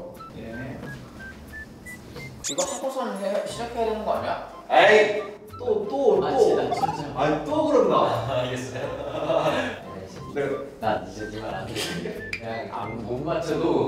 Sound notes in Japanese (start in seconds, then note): 9.4 アハハ